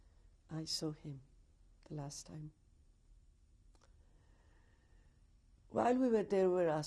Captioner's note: pauses for 3 seconds